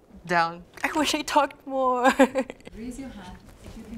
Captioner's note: laughs